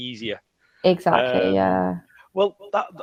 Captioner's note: laughs